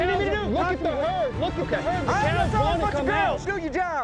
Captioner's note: all arguing